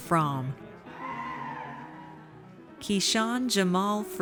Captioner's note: audience cheers